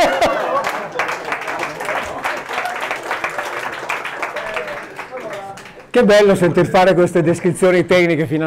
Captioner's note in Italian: Applauso